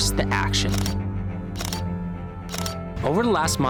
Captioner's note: camera shutter clicking